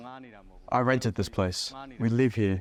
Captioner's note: through translator